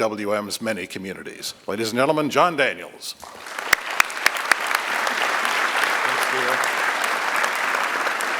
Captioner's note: applause